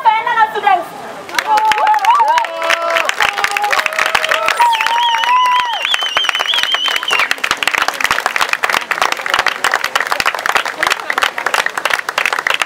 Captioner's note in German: Jubel